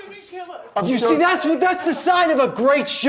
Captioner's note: sobbing